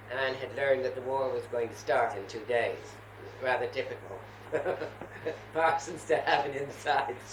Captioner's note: laughter